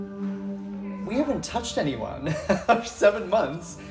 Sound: laughs

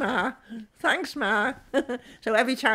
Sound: chuckling

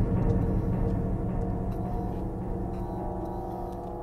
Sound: light Buzzing

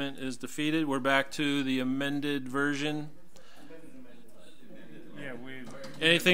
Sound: overlapping chattering

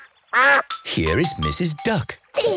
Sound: quacks

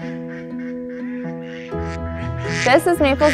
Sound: ducks quacking; light music

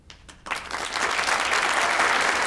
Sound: applause

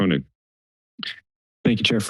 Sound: silence

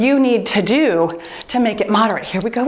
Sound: timer beeps

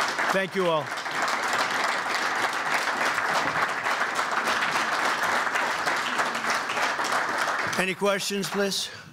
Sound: applause

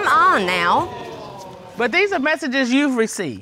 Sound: audience exclaiming

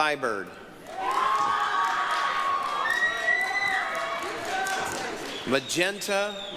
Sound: applause, cheering

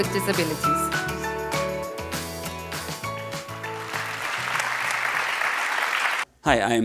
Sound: applause

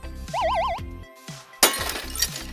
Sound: UFO noise; glass break noise

